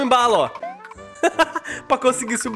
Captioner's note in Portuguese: Risos